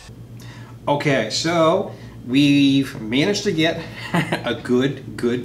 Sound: chuckles softly

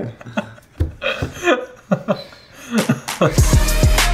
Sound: laughing; upbeat music

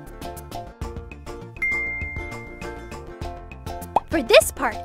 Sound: fingers ding when snapping

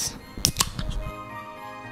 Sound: tasty beverage opening

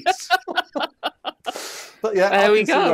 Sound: laughter

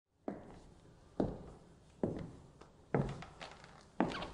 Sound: footsteps approaching

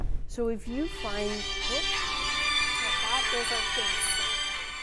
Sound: ringtone

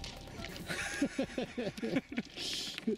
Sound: both laugh

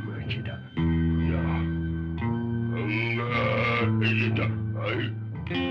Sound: caveman speaking

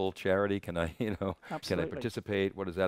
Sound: he chuckles

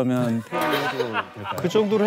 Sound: laughing

